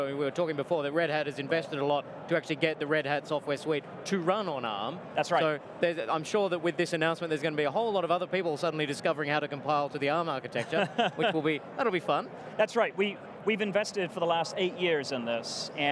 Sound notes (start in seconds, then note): 10.6 laughs